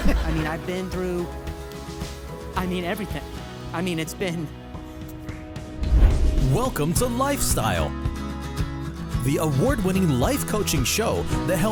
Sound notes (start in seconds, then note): 0.0 audience laughing; 5.7 wind whooshing